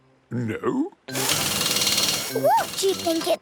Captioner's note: drilling